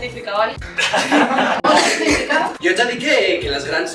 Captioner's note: laughs